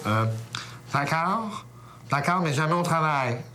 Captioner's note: Voix nasillarde